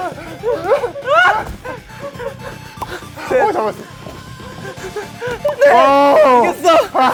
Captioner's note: tennis balls caught